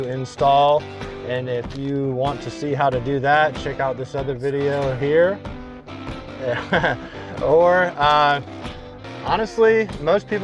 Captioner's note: points and laughs